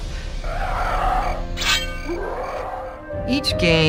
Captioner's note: ghoulish growling